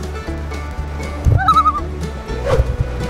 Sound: loon call

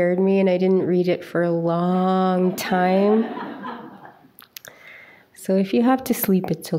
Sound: audience chuckles

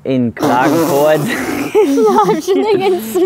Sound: snorts

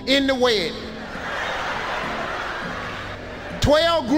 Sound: audience laughing

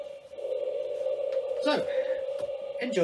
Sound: sighs

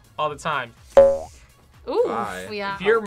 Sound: spring bounces

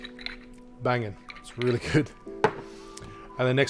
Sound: chuckling

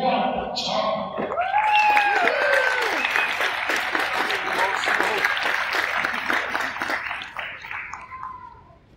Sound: cheers and applause from crowd

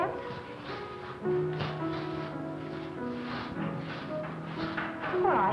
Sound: dancers feet shuffling

